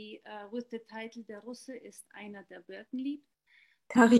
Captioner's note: speaking german